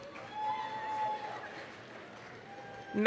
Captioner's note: applause, cheering